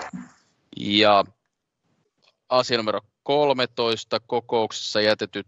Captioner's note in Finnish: nuijan kopautus